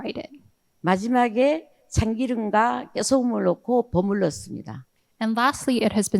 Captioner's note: speaking in foreign language